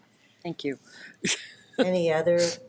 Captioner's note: laughs